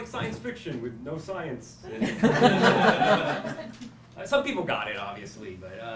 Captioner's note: laughter